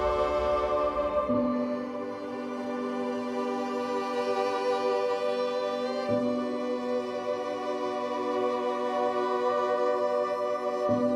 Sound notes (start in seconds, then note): none